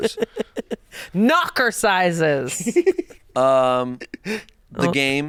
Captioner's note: laughs